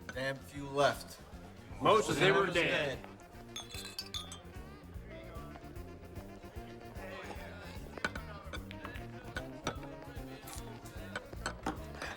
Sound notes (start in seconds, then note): 3.4 glasses clinking